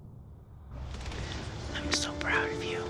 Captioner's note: whispers